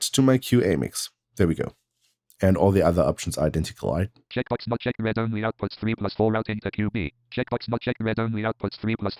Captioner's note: automated voice